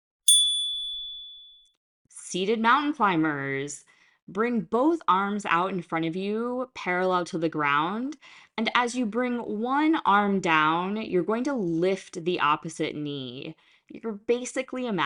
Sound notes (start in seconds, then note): 0.2 chime